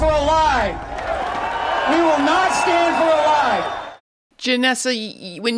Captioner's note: crowd cheering